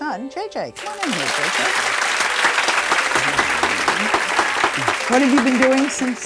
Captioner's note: audience applauds